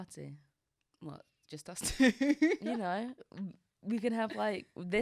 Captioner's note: laughs